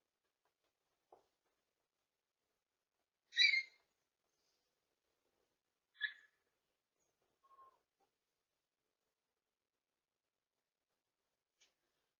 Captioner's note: Ella whimpers